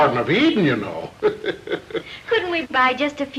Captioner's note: chuckling